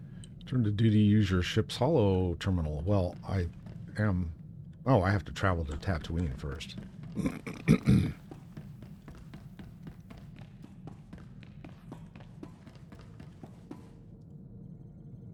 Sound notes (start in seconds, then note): 7.1 clears throat